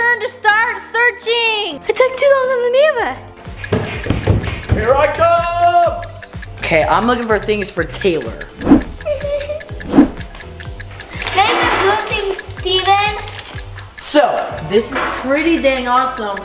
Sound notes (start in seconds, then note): 3.5 timer clicks; 9.2 whimpers